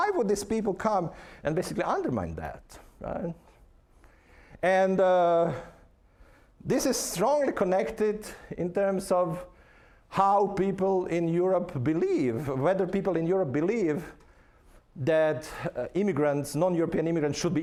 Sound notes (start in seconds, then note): none